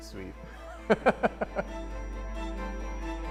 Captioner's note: laughing